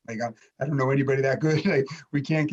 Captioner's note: chuckles